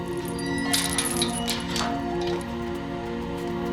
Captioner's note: hinges creaking